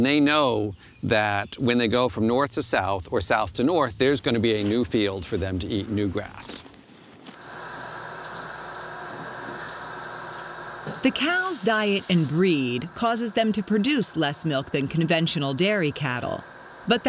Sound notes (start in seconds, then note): 7.4 machine noise